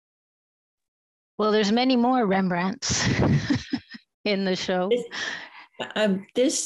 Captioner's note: chuckles